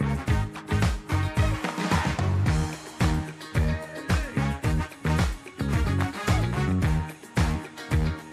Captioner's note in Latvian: Aplausi